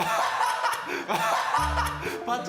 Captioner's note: kekekekeke